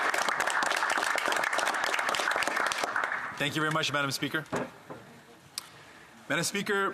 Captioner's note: some Applause